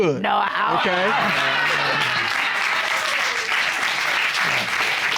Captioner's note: applause